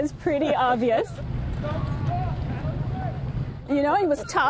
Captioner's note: laughter